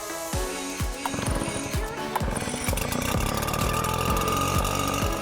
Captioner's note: engine rumbling